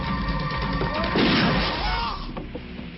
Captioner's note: firebomb blasting; man screams